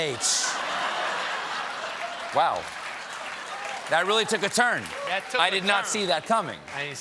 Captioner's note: laughter